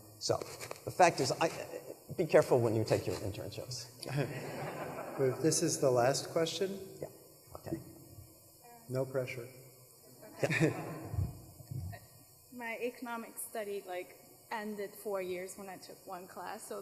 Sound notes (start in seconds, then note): 4.1 audience laughs; 10.4 laughs; 10.4 members of audience laugh